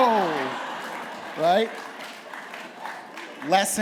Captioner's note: laughter